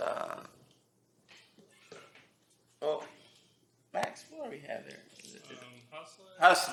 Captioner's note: whispers